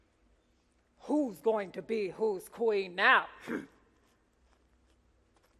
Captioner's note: grunts